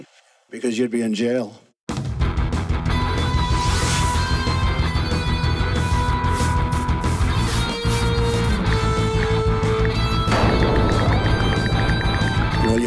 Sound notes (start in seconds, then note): 2.0 rock music; 4.1 brush scraping; 9.6 ticking